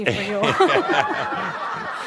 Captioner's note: laughter